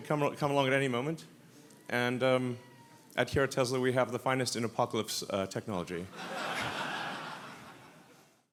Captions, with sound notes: come, come along at any moment. And at here at Tesla, we have the finest in apocalypse technology. (audience laughs)